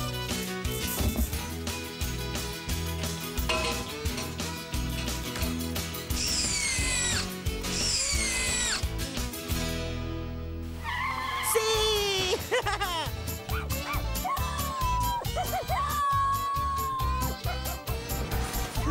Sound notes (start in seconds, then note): 3.3 clang!; 6.1 drill Whirring; 13.4 barking & Howling